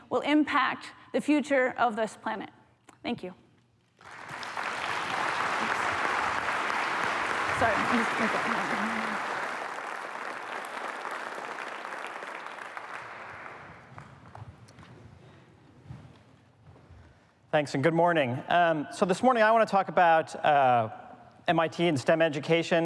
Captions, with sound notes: will impact the future of this planet. Thank you. [APPLAUSE] Thanks and good morning. So this morning, I want to talk about MIT and STEM education.